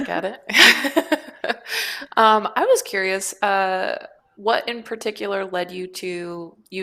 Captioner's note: laughs